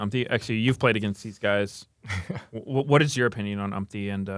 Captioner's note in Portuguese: risos